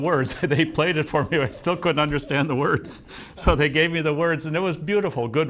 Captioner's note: laughs; laughs